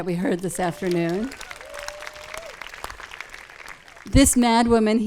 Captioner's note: audience claps and cheers